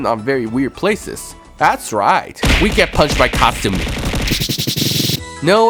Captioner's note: Kasumin punching sounds; Shioriko punching sounds